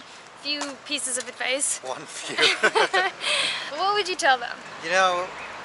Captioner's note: laughter